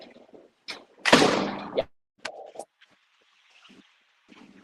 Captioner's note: door slams